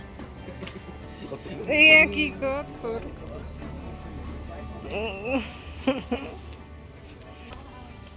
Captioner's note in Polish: śmiech